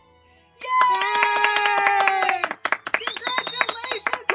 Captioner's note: claps